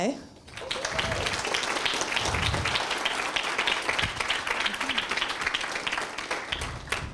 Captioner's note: applause and screams